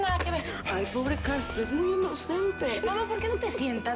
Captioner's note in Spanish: Ríe